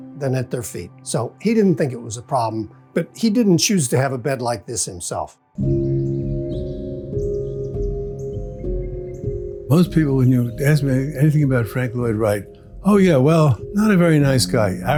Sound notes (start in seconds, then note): 5.6 birds chirping; 5.7 gentle music